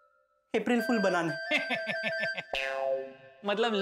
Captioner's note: sarcastic laughter